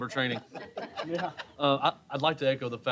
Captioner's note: laughter